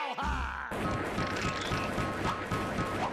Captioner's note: gun firing